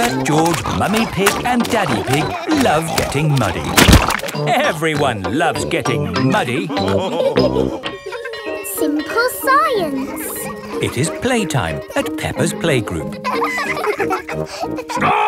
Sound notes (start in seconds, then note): 7.7 bell tolling; 7.7 children laughing; 13.5 children laughing